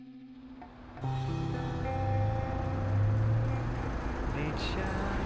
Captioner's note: engine revving